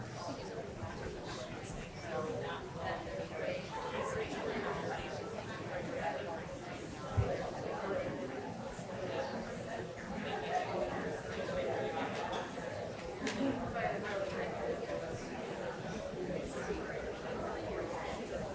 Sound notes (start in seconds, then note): 2.7 audience chatter continues; 12.8 audience chatter continues